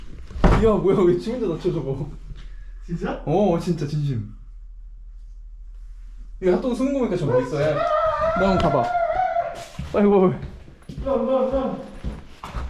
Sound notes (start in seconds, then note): 7.2 screaming lol